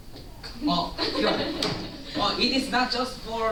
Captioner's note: laughter